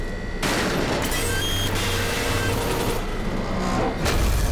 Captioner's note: clanging, metallic scraping